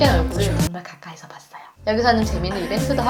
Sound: whispering

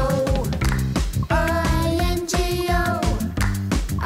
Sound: clap!; clap!

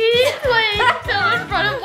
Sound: laugh

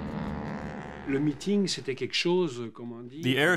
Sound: speaking foreign language

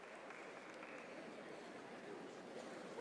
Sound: applause

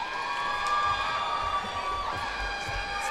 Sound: cheers and applause

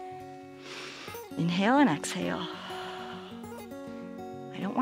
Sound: exhales

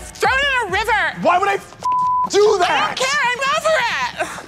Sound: beep

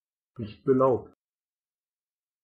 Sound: fast Pronunciation

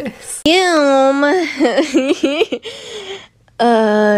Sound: laughs

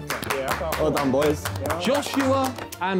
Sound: men clapping

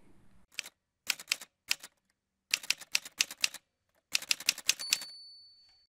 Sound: typewriter Sounds

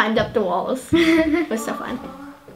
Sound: laughing

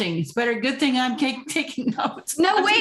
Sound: laughter

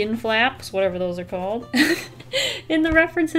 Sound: laughs

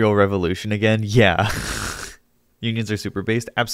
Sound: chuckles

